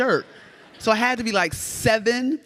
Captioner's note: audience laughs